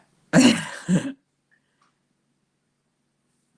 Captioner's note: audio dropout